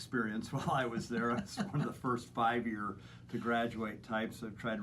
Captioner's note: laughter